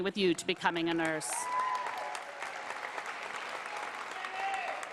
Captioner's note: applause